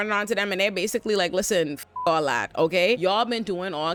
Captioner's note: beep